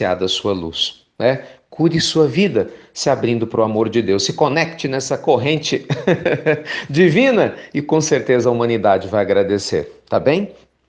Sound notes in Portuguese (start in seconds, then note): 5.8 risos